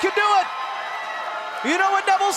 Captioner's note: cheers & applause